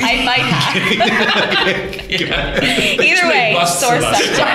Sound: laughter

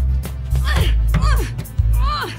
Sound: grunting

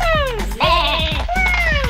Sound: sheep baa

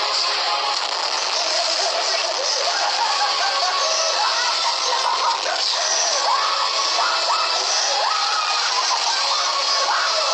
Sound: laughs like a Lunatic because he's exploiting

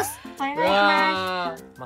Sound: in a high voice

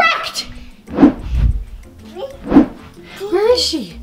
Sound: camera whooshing

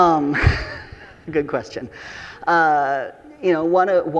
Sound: chuckles

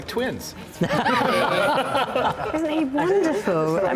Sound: laughter

